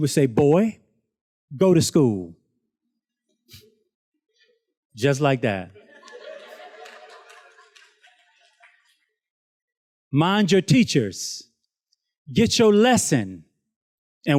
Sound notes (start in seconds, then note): 5.7 students laughs